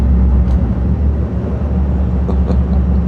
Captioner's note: laugh